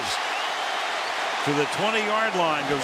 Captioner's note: cheering